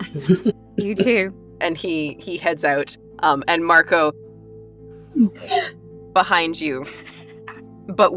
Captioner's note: gulps